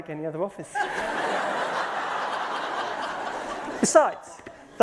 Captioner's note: laughter